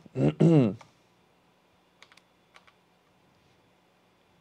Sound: clears throat

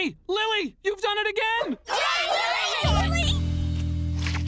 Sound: all cheering

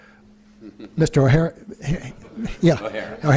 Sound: laughter

